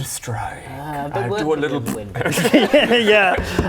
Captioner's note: pffp